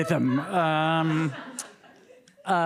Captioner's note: audience laughing